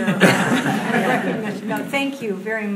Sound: audience laughing

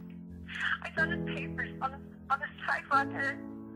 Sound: Kathleen On Phone

